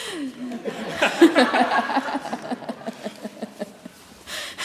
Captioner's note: audience laughs